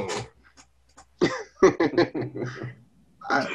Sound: laughs

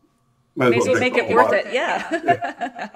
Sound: laughs

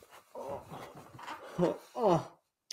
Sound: quieter muffled groaning

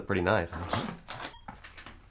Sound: door opens

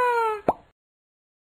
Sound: pop

